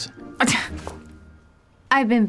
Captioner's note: scoffs